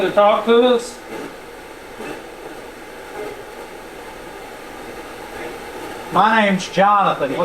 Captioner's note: static sound